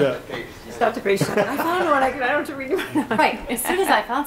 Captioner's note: board members laughs